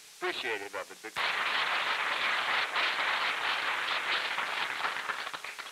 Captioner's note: applause